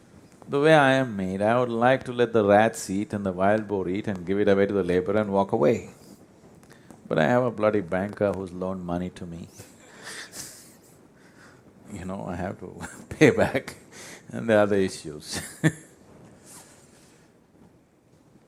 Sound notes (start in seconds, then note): 10.0 laughter; 17.4 laughs